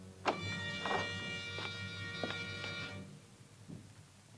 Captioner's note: door opens